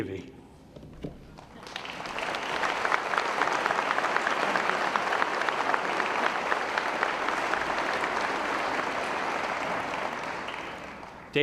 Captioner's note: applause